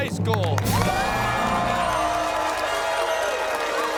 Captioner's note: cheers and applause